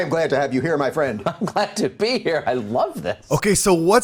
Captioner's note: laughs